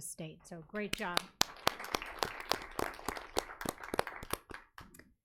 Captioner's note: audience applauding